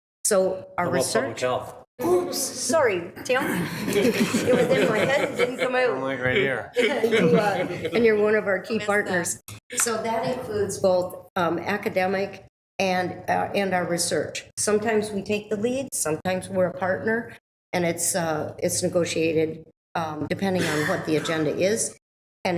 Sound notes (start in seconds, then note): 3.5 attendees laughing